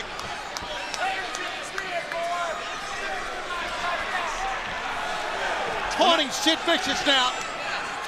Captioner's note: crowd chatter